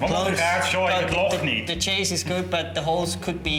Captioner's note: speaks german